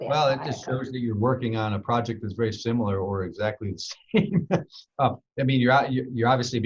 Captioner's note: laughs